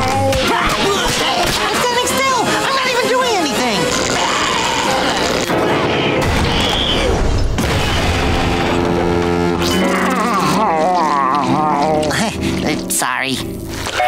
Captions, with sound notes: [yelling] I'm standing still, I'm not even doing anything! [screaming] [horn blowing] [groaning] Heh, sorry.